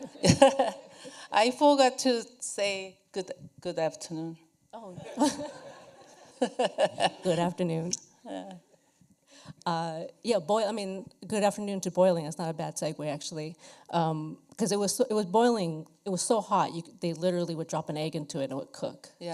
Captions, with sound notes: [laughs] I forgot to say good afternoon. [laughter] Good afternoon. Good afternoon to boiling is not a bad segue, actually, because it was boiling; it was so hot. They literally would drop an egg into it, and it would cook.